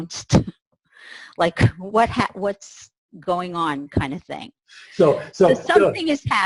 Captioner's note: laughs